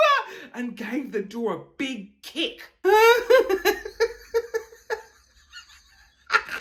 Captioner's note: laughing